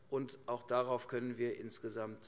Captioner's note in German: none